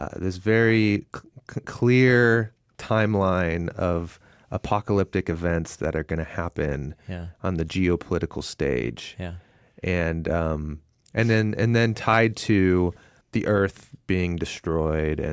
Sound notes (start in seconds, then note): none